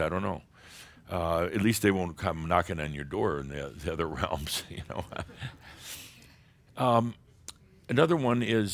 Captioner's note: Adamus chuckles